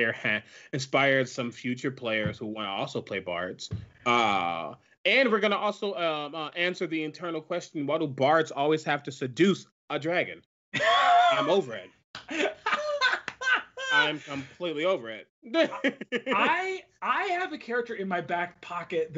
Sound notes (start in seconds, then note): 10.7 laughs